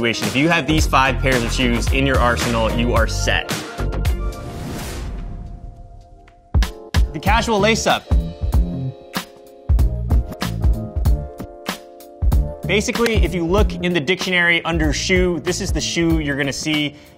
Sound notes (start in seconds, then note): 4.1 fast whoosh; 5.9 upbeat music; 8.1 upbeat music